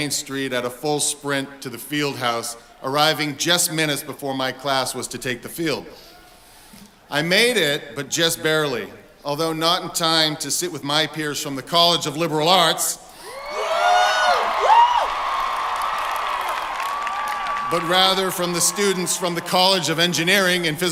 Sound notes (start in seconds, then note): 13.2 cheering